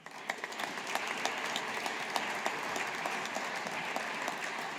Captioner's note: audience applauding